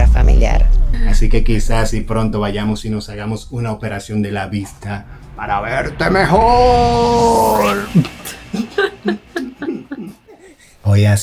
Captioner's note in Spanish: risas